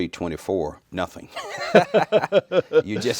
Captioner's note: laughing